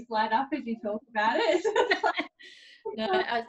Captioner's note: laughs